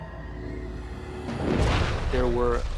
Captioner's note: thunder rumbling